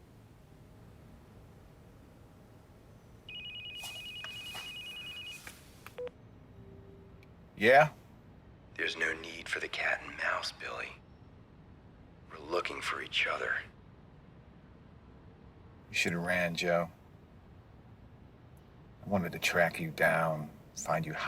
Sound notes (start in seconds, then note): 3.2 phone ringing